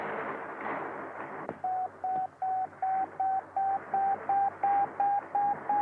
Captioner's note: radar beeping